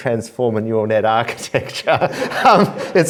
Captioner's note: laughter